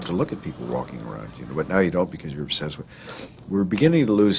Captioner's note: phone